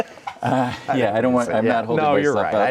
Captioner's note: laughing